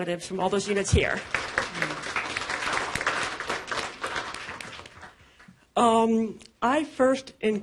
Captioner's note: applause